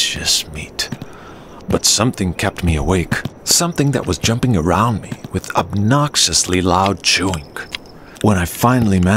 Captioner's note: chewing sound